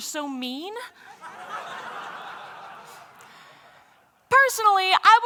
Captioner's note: laughter